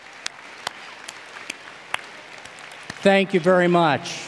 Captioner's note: cheers and applause